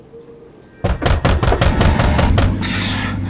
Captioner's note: loud banging